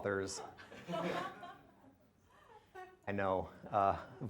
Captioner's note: laughter